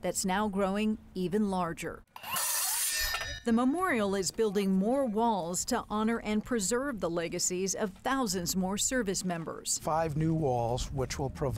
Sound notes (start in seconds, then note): 2.4 machine whirs